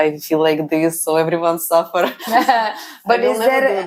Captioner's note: laughs